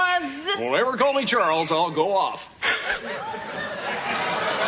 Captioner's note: Risos